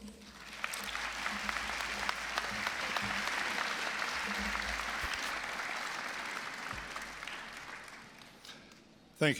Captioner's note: applause